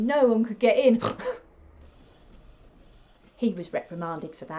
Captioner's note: Jessica snorts